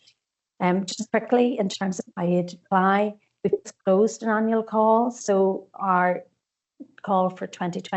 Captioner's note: audio distorts 51.51